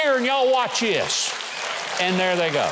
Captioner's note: audience applauds